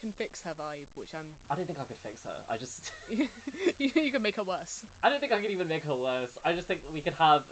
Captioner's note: laughs